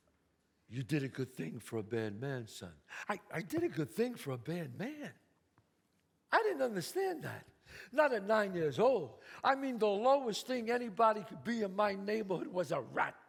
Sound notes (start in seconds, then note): none